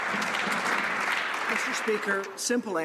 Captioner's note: some Applause